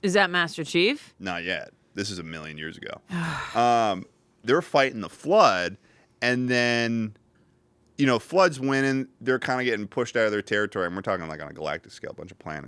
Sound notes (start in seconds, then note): 3.1 sighs